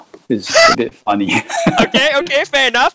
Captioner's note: laughs